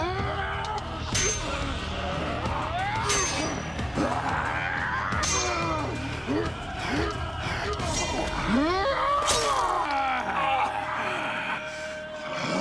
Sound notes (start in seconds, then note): 0.3 growls; 3.3 yells; 5.6 both grunting; 8.8 yells